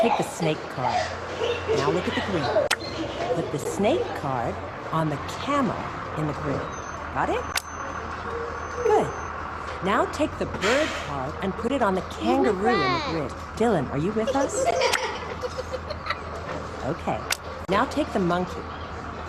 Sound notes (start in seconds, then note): 0.0 children laughing; 8.5 bus engine idling; 14.1 children laughing